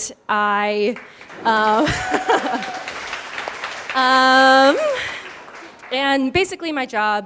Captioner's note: applause